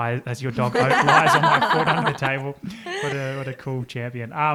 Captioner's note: all laugh